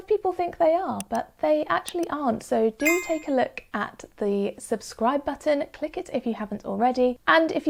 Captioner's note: bell sound effect